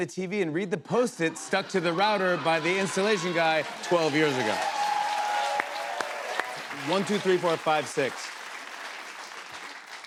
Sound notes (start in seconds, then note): 4.8 cheers and applause